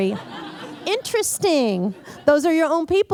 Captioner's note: laughter